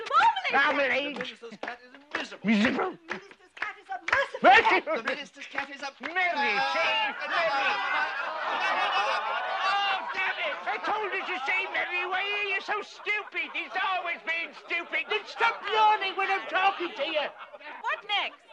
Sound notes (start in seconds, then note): 7.9 all laughing